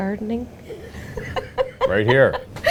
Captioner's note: laughing